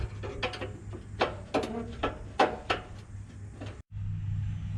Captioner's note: metal clanging